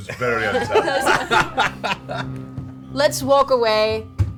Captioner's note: all laugh